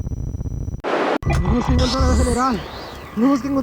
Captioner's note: men speaking spanish